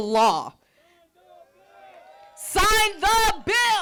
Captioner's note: group cheering